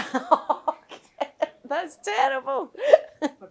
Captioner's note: laughter